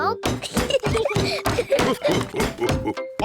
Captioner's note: laughter